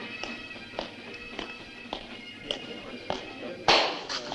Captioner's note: men chattering